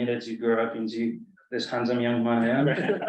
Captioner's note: colleagues laugh